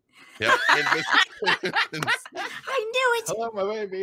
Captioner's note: group laughs